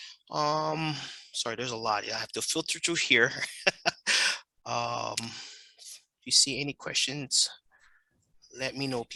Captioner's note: laughing